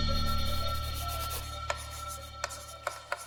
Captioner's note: music fades; pencil scratches; chalk taps on the chalkboard